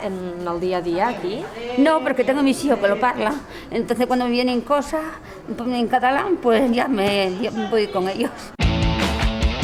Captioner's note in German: auf Spanisch